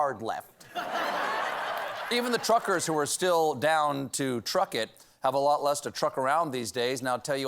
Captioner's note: laughter